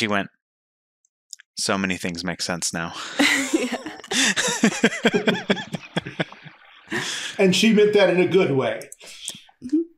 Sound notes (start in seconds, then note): 3.0 laughing